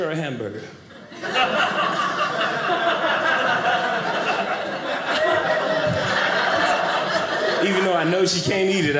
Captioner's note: audience laughing